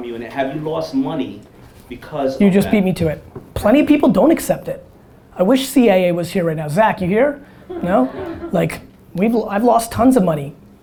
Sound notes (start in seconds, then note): 7.6 audience chuckling